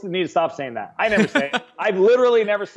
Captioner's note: laughing